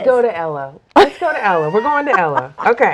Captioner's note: laughs